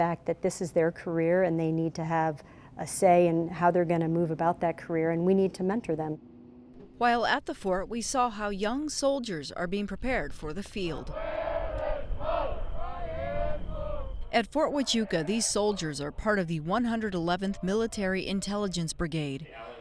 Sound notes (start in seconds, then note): 11.1 soldiers chanting